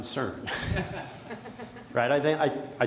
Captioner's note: audience members chuckle